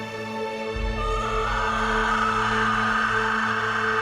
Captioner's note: screams